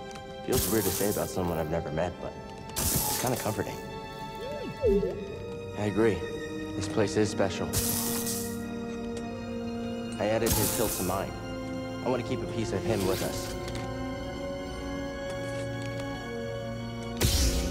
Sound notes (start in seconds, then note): 4.4 boop